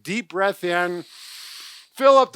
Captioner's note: inhaling